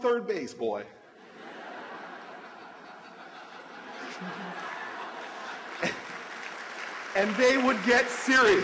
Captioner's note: laughter, applause